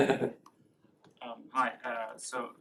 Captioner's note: laughter